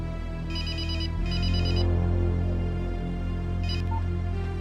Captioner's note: phone ringing